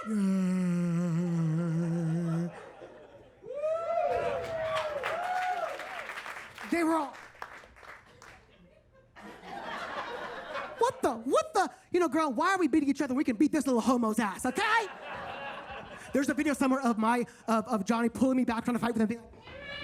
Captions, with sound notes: (audience cheers and claps) They were all. (audience laughs) "What the, what the? You know, girl, why are we beating each other? We can beat this little homo's ass, okay?" (audience laughs) There's a video somewhere of Johnny pulling me back on the fight, and I'd be like.